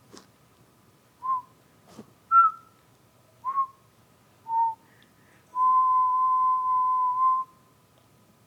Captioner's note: whistles four short notes and one long note